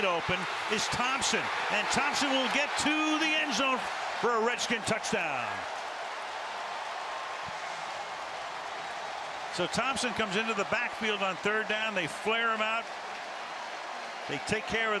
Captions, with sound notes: Wide open is Thompson. And Thompson will get to the end zone for a Redskin touchdown. [crowd cheers] So Thompson comes into the backfield on third down. They flare him out.